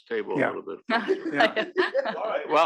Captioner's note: laugh